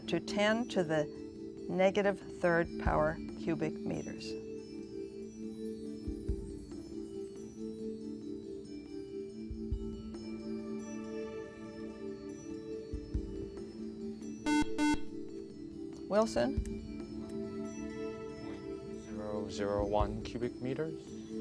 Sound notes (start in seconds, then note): 14.4 beep